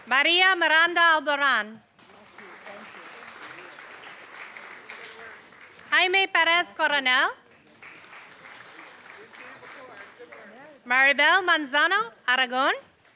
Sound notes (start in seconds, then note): 2.0 applause; 7.4 applause